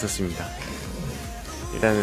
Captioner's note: pig-like snort